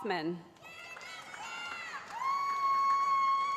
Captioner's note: cheering